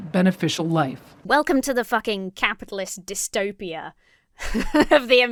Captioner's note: chuckles